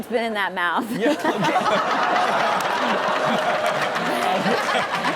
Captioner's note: everyone laughs